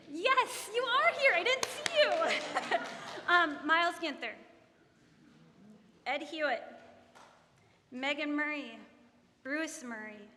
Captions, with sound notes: Yes, you are here, I didn't see you! (audience laughing) Miles Ginther, Ed Hewitt, Megan Murray, Bruce Murray,